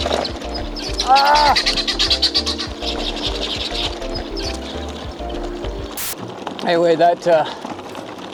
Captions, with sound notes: Ahhh! [turkeys gobbling] [static] Anyway, that uh...